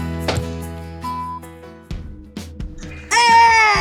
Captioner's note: beeping